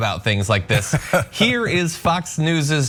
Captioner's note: laugh